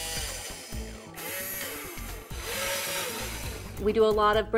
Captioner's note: whirring